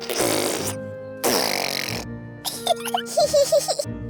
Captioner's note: sputtering; both giggling